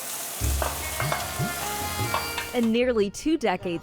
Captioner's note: pan sizzling